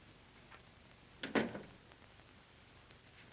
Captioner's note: door closes